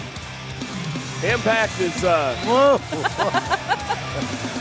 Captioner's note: laughs